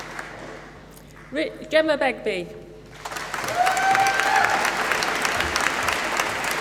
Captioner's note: applause